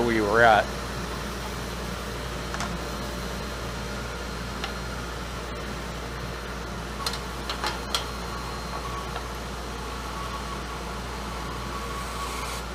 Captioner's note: sawing